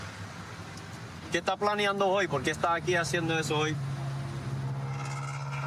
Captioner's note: speaking spanish